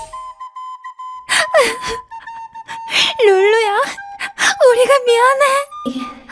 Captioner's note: sob